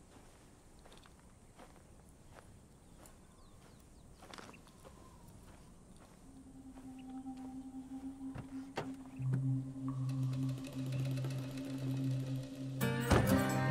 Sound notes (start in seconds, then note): 6.6 car door clicks open; 6.6 gravel crunching; 9.3 upbeat country music playing